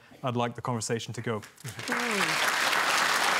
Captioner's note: applause